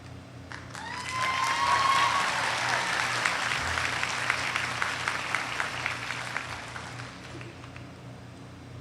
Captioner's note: applause